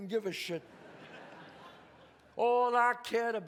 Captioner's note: audience laughs